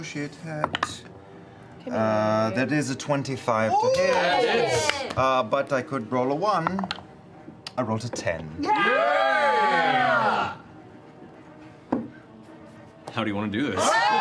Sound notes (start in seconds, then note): 8.6 cheering; 13.8 cheering